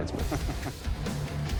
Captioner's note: laughs